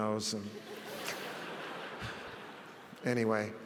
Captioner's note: audience laughs